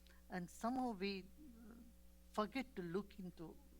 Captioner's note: none